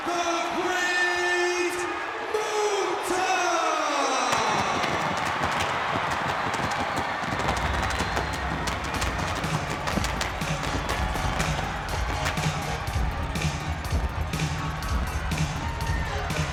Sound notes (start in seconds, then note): 4.5 audience applauds and cheers; 9.3 upbeat music